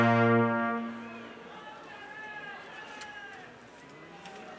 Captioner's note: crowd chattering